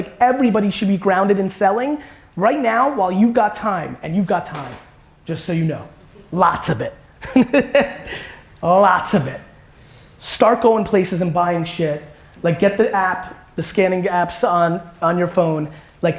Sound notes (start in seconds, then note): 7.2 laughs